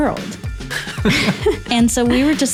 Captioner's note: laughs